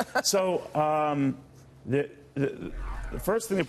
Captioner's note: laughter